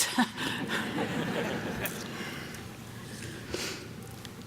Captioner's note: audience laughing